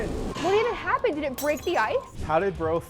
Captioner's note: glass shattering